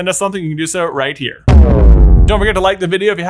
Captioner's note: text booms